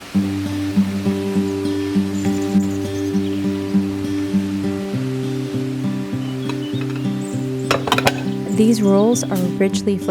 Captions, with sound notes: [wimby noises and birds] These rolls are richly